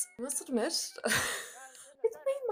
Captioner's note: laughs